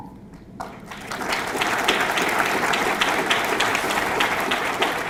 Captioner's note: audience clapping